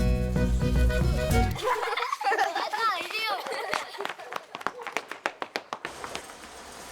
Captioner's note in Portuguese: risos